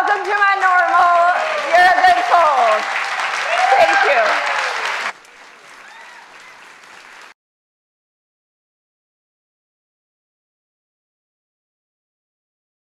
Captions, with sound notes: Welcome to my normal, you've been told, thank you. (audience claps and cheers)